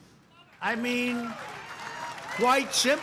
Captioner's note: applause